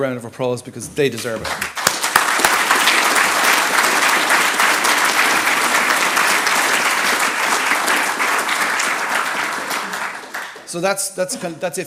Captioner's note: applause